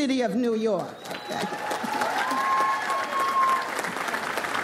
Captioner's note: audience applauds